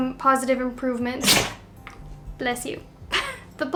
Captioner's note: dog sneezing